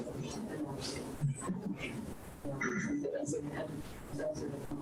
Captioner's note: speaks distorted